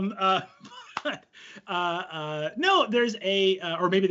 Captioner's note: laughs